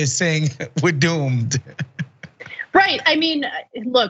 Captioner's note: laugh